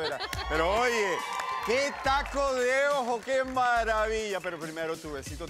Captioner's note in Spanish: Exclamaciones